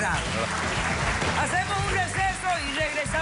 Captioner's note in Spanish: Aplausos